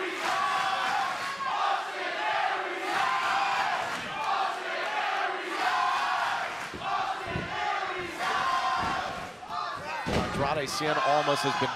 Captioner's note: fans chanting